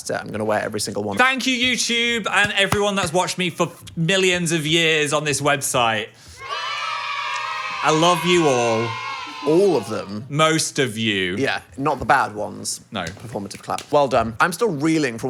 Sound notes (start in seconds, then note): 6.3 children cheering